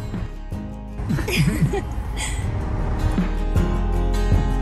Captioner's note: chuckling